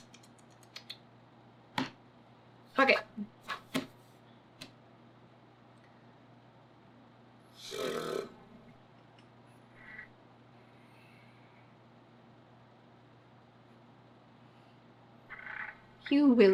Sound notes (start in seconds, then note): 4.3 blows raspberries